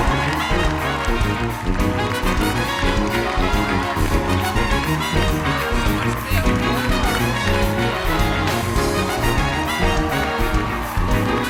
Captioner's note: cheers and applause